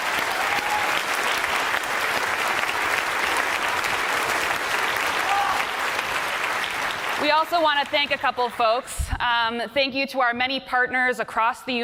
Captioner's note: applause